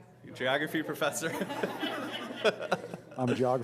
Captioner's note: laughter